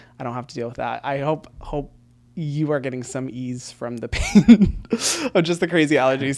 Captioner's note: laughs